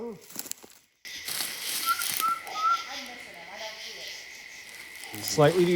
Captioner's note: person whistling